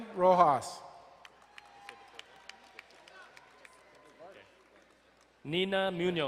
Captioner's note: crowd cheering and applauding